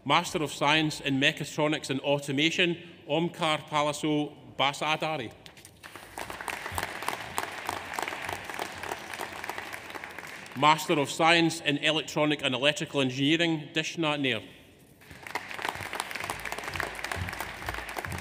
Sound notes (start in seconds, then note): 5.8 audience applauds; 15.0 audience applauds